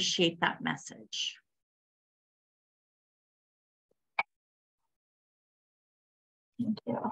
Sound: silence

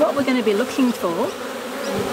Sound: rustling; bees buzzing

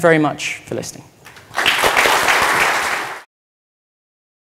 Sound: applause

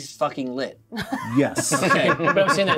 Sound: co-hosts laughing

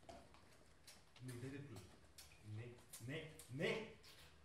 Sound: replies in Bulgarian

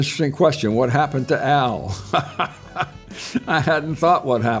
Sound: laughing

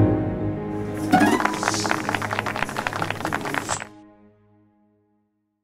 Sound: applause

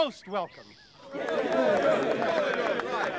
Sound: cheering, applause

